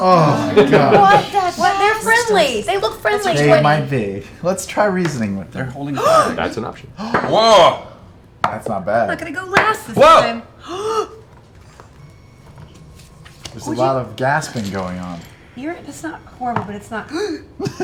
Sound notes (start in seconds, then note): 10.6 gasps; 17.0 sharp gasp